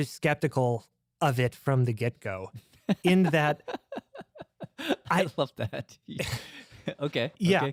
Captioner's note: laughs